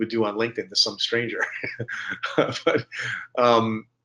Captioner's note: chuckling